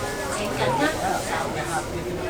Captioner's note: Cantonese